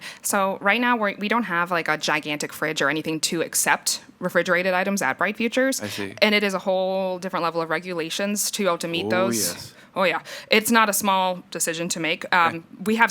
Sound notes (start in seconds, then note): 6.1 bell